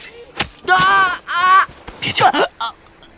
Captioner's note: gasps/Groans